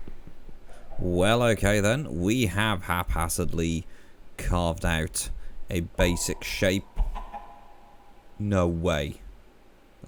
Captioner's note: echoing chicken plop